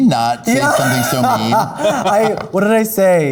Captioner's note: laughing